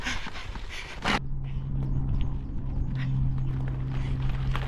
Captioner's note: wheels on gravel and aeroplane